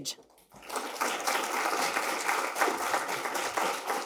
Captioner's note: audience applauding